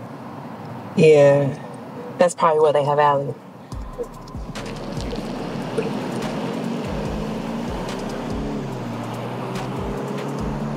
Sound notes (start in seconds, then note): 2.7 engine hums; 3.6 midtempo hip hop music